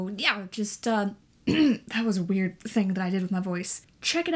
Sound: clears throat

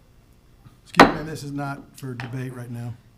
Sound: gavel taps

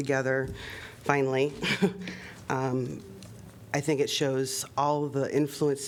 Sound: laughter

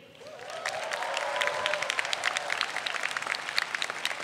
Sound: audience applauds

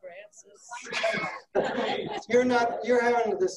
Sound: laughing

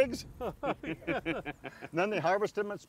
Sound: group laughs

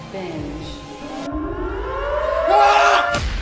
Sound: siren

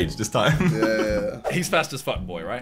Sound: laughing

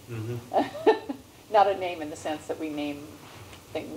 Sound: laugh

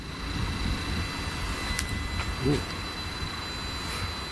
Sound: machine buzzing

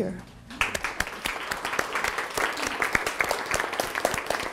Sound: applause

